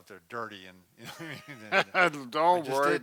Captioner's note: laughs